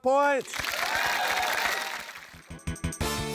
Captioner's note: cheering, applause